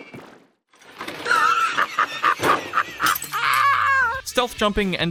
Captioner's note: that doggone crazy wheeze laugh Courage does